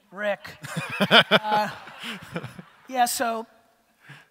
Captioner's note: audience laughter